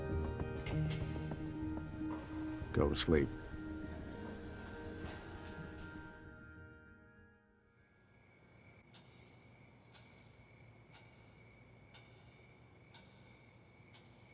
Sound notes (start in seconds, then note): 7.7 crickets chirping; 8.3 clock ticking